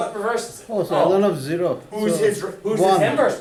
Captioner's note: student mumbles answer; voiceover